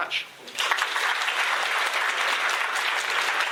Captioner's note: applause